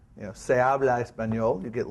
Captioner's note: spanish